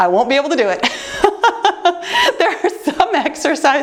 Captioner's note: laughing